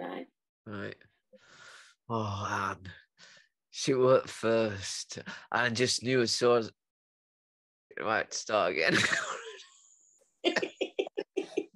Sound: laughs

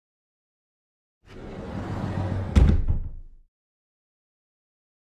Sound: sound of door

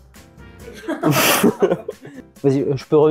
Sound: laughs

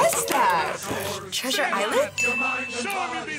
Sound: bell rings

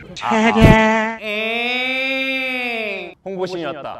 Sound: making a sound with his voice

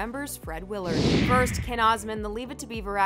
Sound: whoosh

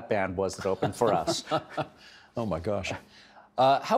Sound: laughing

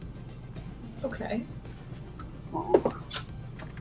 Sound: dice rolling

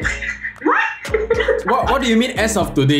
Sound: laughs

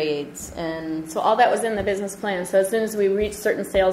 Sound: voiceover

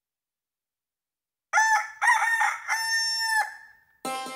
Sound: crows

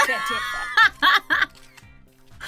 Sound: laughs

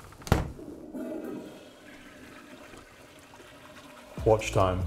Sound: door closes; toilet flushes

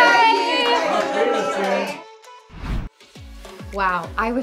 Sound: clapping

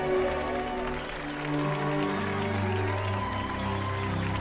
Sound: crowd cheering

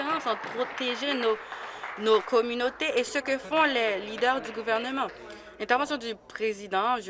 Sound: applause

